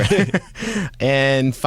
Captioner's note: laughter